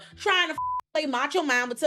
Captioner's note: beep